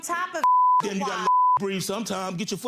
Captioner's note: beeps